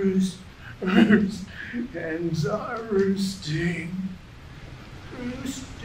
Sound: man babbles to himself

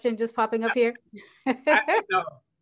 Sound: chuckles

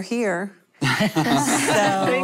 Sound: laughter

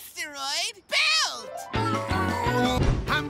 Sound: groaning

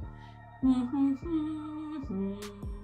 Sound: hums

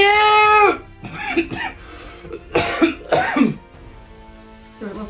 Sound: coughs

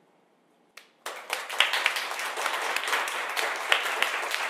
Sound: audience claps

